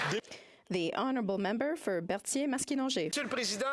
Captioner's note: some Applause